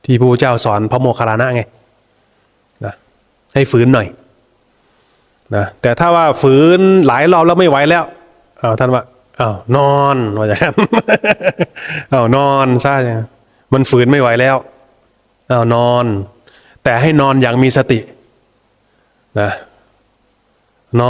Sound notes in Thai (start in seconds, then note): 10.6 เสียงหัวเราะ